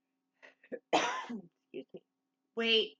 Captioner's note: cough